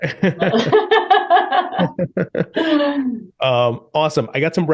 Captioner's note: both laughing